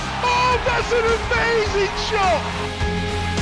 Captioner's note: male announcer shouting